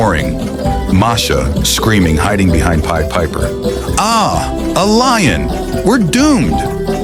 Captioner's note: gasping, eyes wide with fear, clutching Pied Piper’s arm